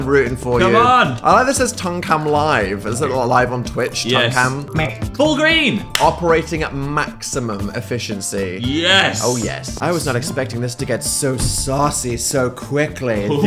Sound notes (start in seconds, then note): none